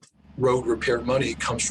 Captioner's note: machinery whirring